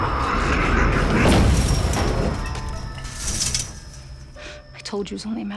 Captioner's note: snarling; banging on door